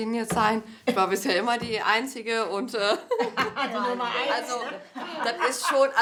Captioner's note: laughs